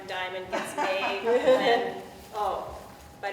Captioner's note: people laughing